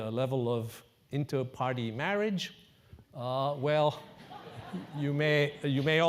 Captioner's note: laugh